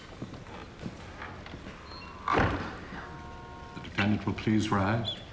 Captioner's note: door opens, closes